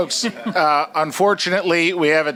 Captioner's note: chuckles